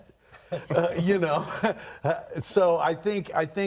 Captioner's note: all laughing